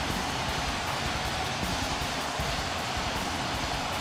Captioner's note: none